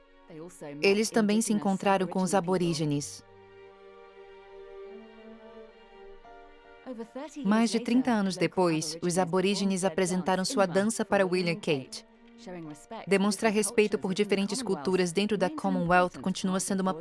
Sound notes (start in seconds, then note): 10.6 speaking in foreign language